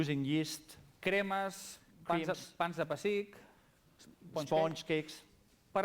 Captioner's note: non-english speech